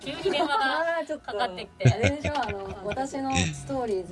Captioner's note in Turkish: kahkaha